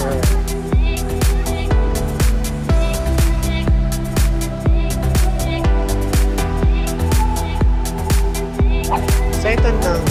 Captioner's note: foreign